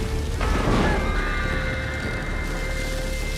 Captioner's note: thunder crashes and man screaming